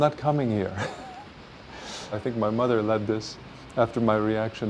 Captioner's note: chuckling